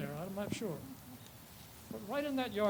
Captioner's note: person chuckles